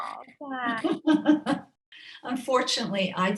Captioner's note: laughing